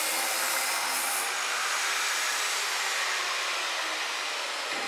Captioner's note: the grinding noise fades away